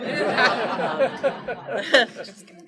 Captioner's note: laughter